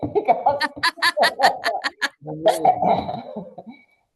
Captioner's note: people laugh